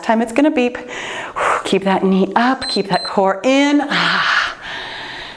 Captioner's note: timer beeps